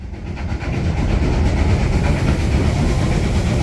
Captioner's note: puffing of a steam train through a tunnel